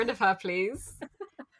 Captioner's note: laughs